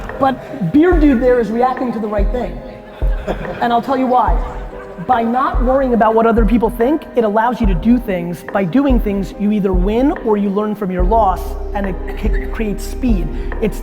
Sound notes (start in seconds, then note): 2.6 laughter